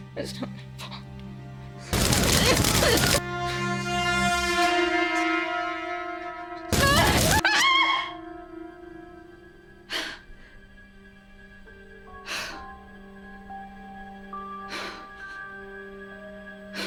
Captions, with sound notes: It's not my fault. [coughing] [ominous music] [screaming] [panting] [eerie music]